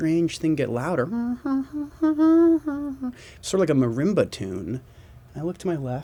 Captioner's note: humming